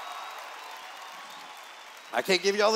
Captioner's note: cheers